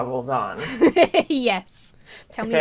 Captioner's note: laughs